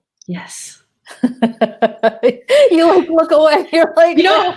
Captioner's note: laughing